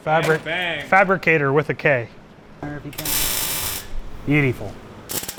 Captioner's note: tools buzzing